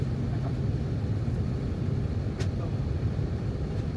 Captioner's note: engine humming